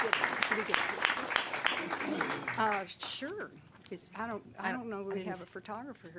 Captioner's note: applause